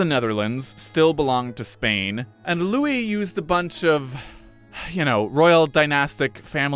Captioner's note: deep breath